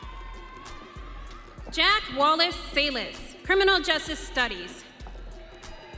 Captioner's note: audience cheering